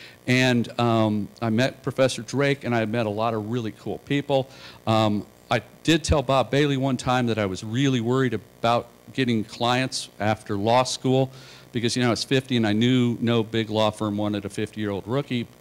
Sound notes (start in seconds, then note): none